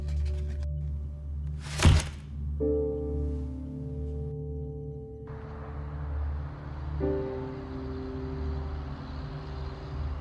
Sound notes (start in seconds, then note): 1.6 door thudding; 1.8 somber music